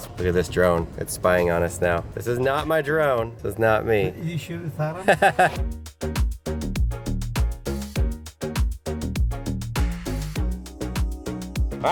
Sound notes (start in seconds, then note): 4.9 laughs; 5.0 funky music